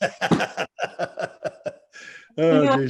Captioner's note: laughs